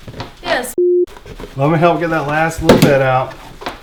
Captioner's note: beep